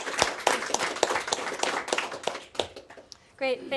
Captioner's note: applause